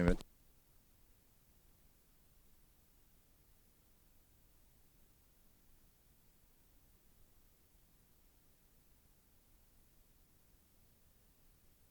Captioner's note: no audio